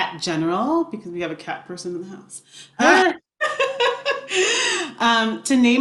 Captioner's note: laughs